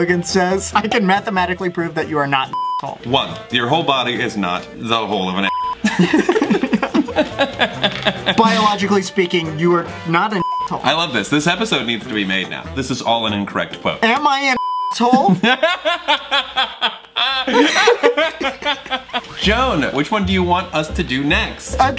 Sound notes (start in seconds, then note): 2.5 beep; 5.7 beep; 5.8 laughs; 10.4 beep; 14.5 beep; 15.0 laughs